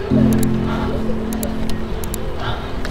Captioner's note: Sigh